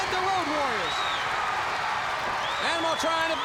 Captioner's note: crowd cheering